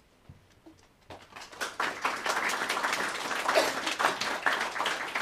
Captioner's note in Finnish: Aplodeja